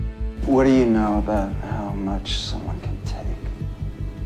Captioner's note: voiceover